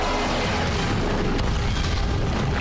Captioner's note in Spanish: explosión